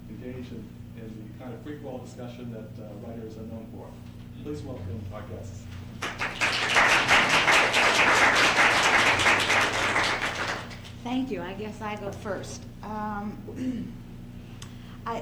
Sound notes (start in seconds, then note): 5.9 applause